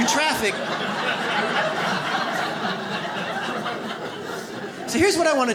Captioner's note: audience laughs